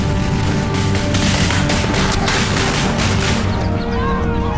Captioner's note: gunshots banging